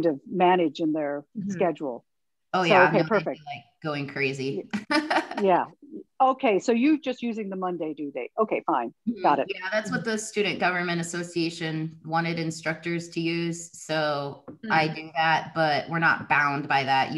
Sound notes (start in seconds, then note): 4.8 laughs